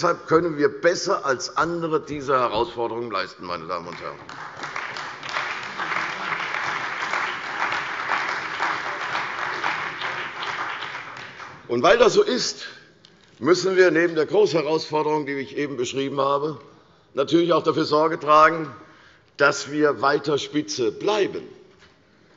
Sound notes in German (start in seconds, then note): 5.9 Beifall bei der CDU und dem BÜNDNIS 90/DIE GRÜNEN